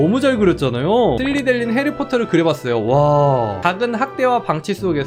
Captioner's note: voiceover